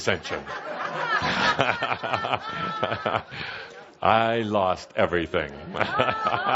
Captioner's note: laughter from audience and Kuthumi; more laughter from all